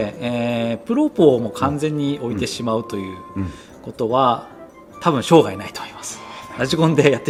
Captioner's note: laughs